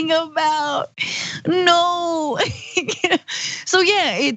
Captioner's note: laugh